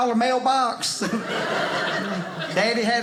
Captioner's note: audience laughing